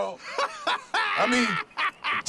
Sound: laughing

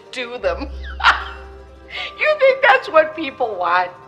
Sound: laughs

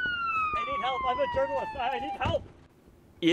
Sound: sirens

